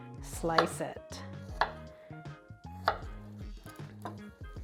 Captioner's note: knife clacks